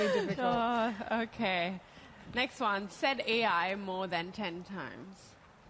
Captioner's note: laughter